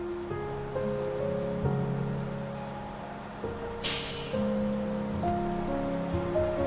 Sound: sound of Bus Engine

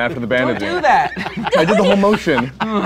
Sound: laughing

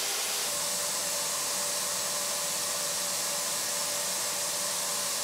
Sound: vacuum cleaner whirring

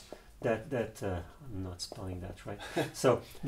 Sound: laughs

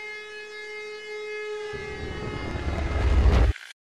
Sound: crashing

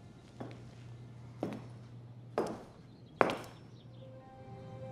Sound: footsteps approaching

